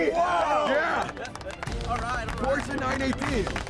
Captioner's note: applause